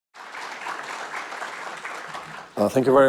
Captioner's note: audience applauds